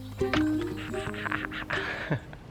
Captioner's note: laughter